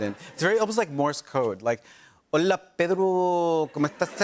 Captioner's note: speaking Spanish; laughter